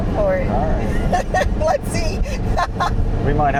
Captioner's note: laughing